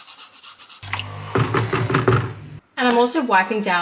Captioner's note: scrubbing noises; tapping noises